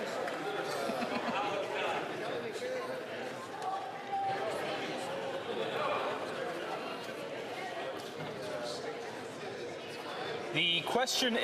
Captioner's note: speaking French